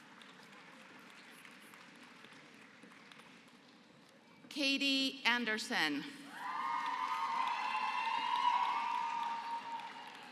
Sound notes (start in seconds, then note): 0.0 applause; 6.3 applause